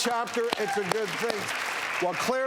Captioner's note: crowd applause